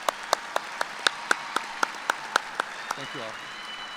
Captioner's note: applause